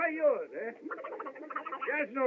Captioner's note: quacking